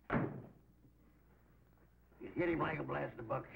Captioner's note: door thudding